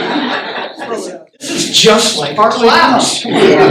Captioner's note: laughter